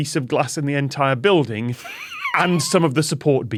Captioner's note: wheezes